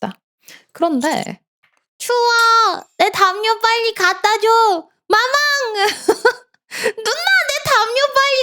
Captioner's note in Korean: 웃음